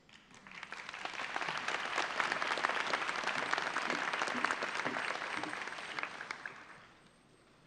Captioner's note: applause